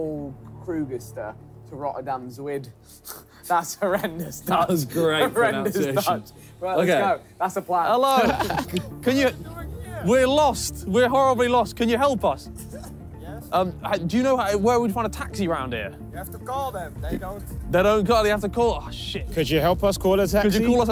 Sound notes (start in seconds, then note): 8.1 laughing